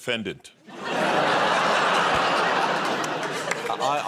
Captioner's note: laughter